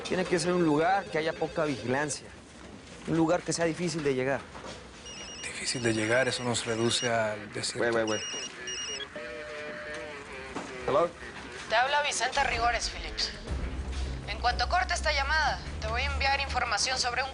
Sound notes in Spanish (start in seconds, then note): 5.0 Suena celular